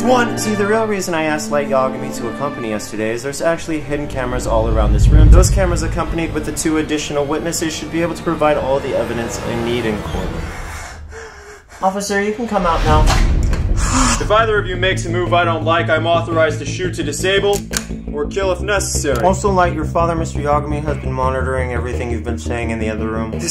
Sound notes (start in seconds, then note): 10.0 loud breathing; 13.7 more breathing